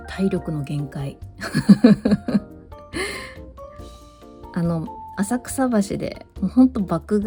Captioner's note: laughs